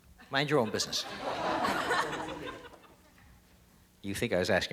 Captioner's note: audience laughter